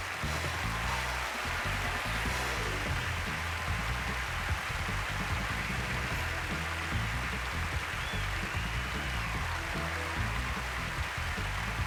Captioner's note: applause